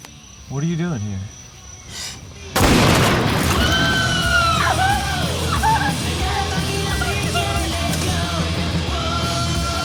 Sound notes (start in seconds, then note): 3.5 screams